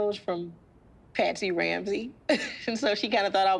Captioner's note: laughs